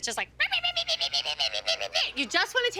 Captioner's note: yapping